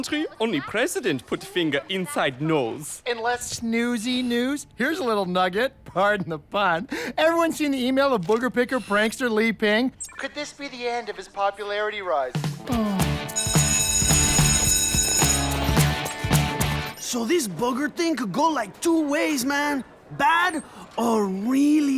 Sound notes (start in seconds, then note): 13.3 lee sighs, bell rings